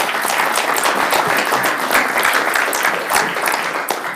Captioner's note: audience applauding